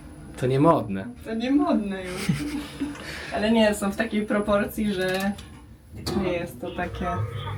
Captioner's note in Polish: śmiech